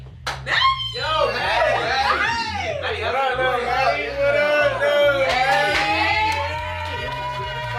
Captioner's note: cheers